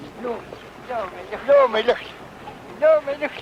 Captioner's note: non-english speech